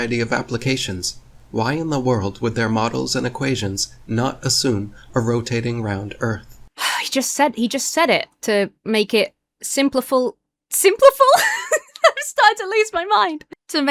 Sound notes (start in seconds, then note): 6.8 sighs; 11.2 laughs